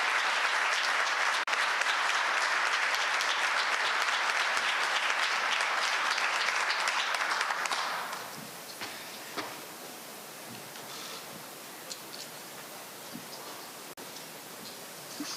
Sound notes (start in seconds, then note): 4.8 applause n